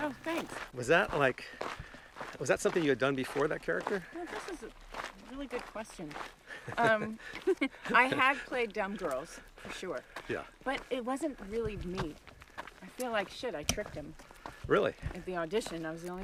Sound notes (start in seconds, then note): 6.6 laughs